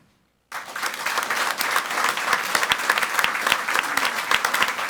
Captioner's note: audience applauds